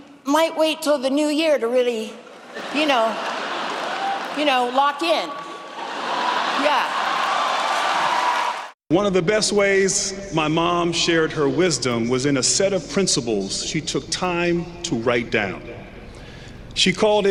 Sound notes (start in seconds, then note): 5.3 laughter; 8.2 cheering